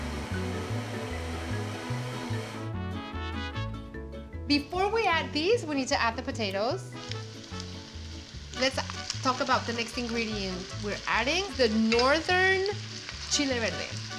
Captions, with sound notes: [Whirring faster] [Whirring stops] Before we add this, we need to add the potatoes. Let's talk about the next ingredients. We're adding the northern chile verde.